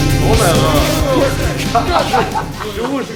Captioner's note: laughs